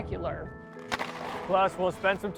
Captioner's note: hockey stick cracks